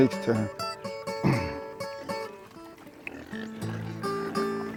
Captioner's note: pigs grunting